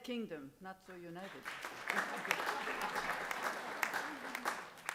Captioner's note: applause